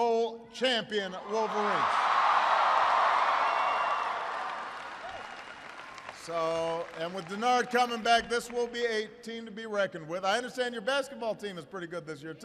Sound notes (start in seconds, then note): 1.9 applause